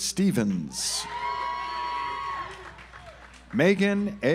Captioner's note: audience applauds